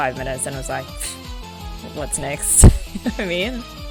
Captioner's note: laughs